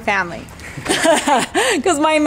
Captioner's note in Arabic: يضحك